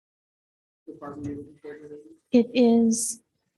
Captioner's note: male speaks softly